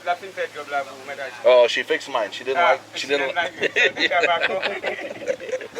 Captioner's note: laughing